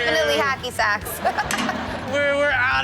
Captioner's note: all laugh